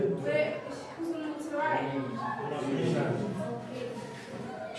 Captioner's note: speaks softly